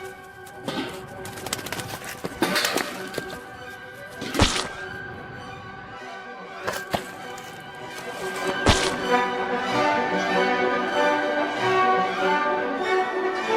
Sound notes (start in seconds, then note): 0.0 wings flapping; 0.2 dramatic music continues; 4.2 bird squelching; 8.6 dramatic music increasing; 8.6 flesh squelching